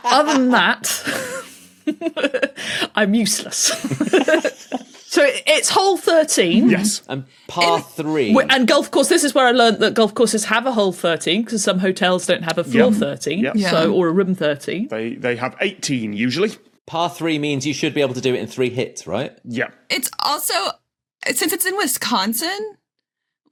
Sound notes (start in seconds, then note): 0.9 giggles; 3.6 group giggling